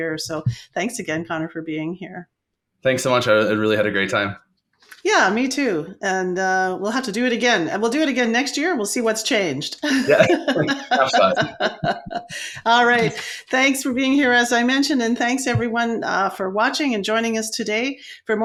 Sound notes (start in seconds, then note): 9.8 laughs